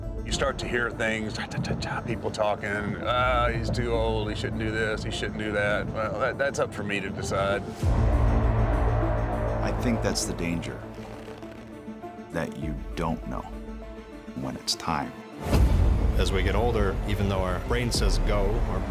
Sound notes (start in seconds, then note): 10.9 gloves tighten